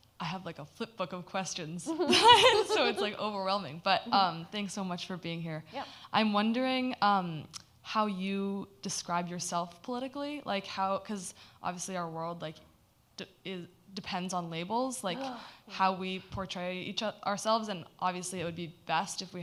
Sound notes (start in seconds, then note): 1.9 laughs